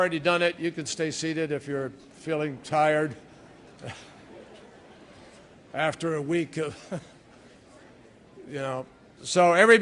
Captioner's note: laughter